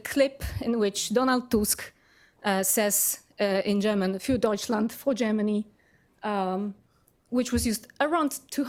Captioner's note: speaking german